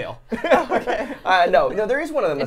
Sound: laughs

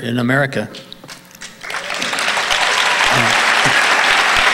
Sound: audience applauding

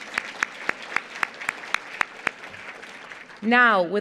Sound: applause

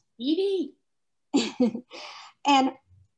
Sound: chuckles

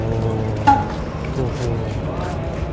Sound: people are whispering past me

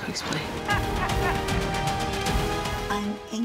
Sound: laughing

